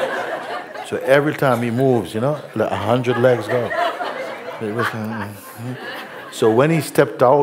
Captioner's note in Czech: smích